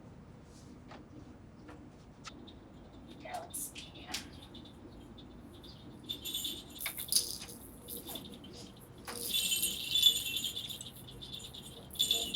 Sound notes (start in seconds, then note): 4.9 jingling of baby toys